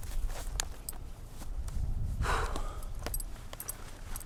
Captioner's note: belt undone